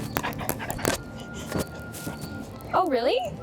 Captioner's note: chewing and rustling